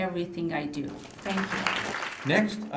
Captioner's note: applause